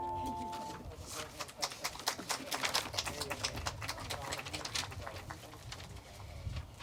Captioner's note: aplodeja